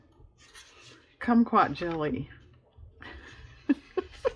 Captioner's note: laughs